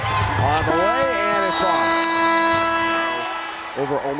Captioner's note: horn blares